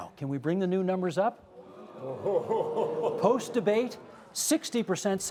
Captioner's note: oos and ahs